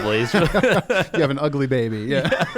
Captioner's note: laughter